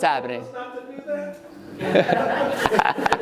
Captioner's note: audience member murmurs; laughing